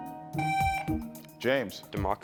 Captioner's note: buzzer buzzing